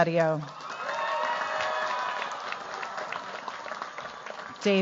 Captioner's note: cheers, applause